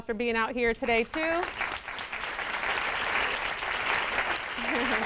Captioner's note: audience claps